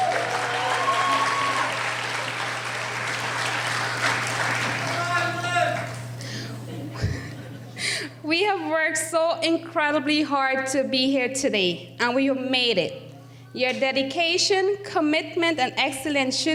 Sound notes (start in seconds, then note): 0.0 cheering; 4.8 audience member yelling